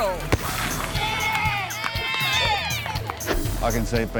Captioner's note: people cheering; explosion bangs